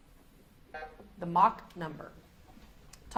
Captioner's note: beep buzzing